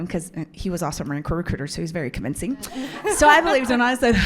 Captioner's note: audience laughs